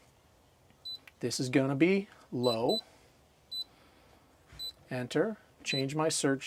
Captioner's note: beeping; beeping